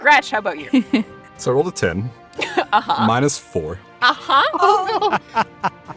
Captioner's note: EVERYONE laughs